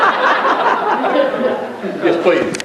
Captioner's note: louder laughter